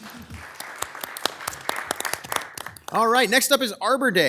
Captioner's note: attendees applauding